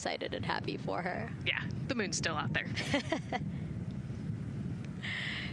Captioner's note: laughter